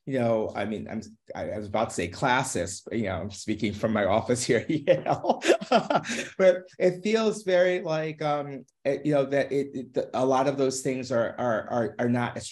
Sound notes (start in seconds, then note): 4.6 laughing